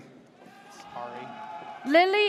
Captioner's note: audience cheers